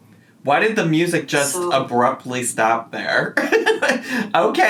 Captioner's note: laughs